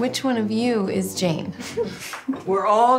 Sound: chuckles

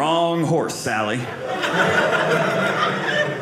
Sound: audience laughing

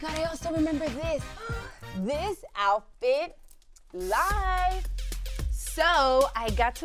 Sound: gasps

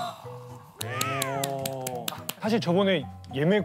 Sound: applause

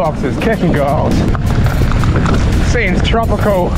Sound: bike clatters

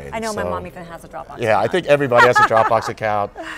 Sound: laughs

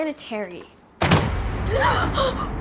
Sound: door shuts; sigh

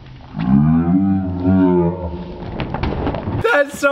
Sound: growling; heavy slap

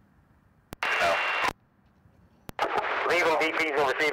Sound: radio chatter

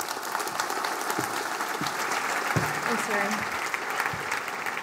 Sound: applause

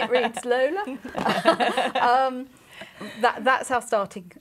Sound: laughing

